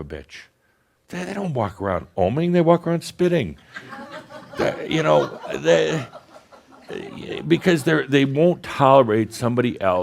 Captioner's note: some giggles